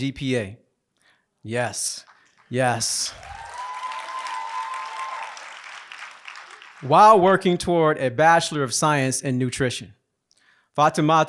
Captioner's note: applause